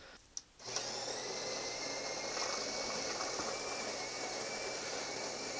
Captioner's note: grinder noise